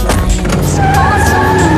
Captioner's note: tires screeching